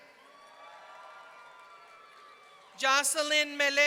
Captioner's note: audience cheering